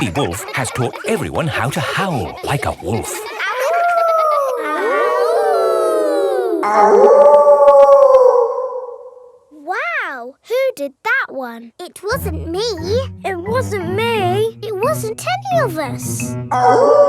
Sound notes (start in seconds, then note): 0.0 kids howling; 3.5 howling; 5.2 kids howling; 7.2 wolf howling loudly